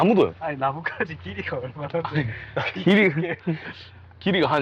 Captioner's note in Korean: 웃음